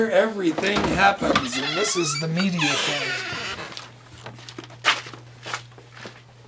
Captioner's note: door creaking